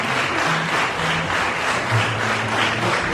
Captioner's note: applause